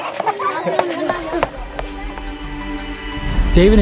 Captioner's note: speaking in foreign language; uplifting music